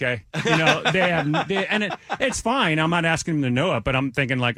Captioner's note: laughing